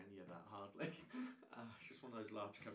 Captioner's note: laughing